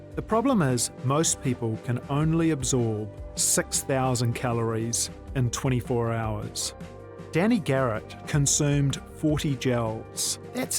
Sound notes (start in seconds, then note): none